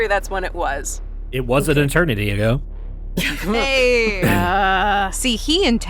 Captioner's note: A few giggles and groans